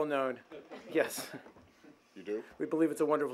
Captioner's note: laughter